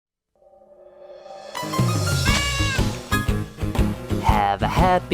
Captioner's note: Blue's Clues pawprint SFX fades in